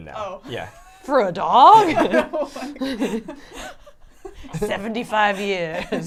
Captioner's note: laugh